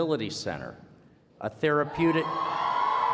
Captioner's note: cheering